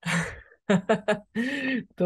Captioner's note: chuckles